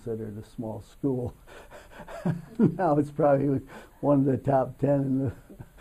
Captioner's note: laughs